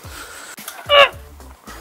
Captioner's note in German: Stöhnen